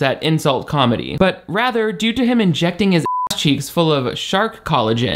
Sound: beep

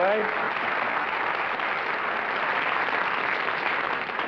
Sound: applause

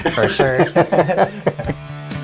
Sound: both laughing

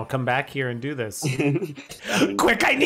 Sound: laughs

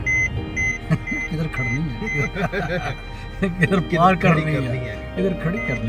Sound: laugh

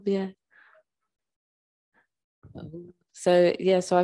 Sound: sound cuts out

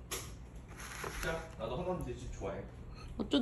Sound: stirring

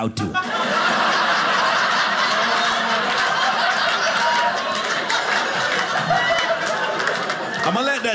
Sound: audience laughing

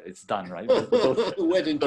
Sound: laughs

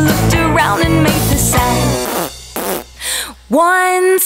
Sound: blows raspberry

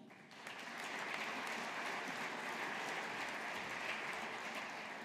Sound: audience applauding

